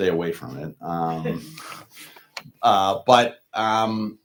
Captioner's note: chuckling